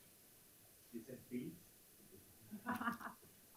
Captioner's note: speaking faintly; photographer laughing